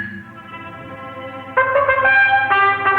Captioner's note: horns blowing